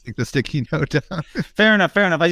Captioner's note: chuckles